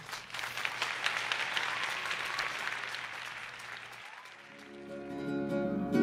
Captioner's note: applause; string music